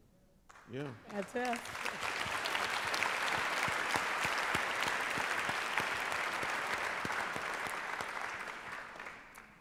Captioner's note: applause